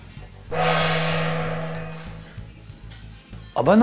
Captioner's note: gong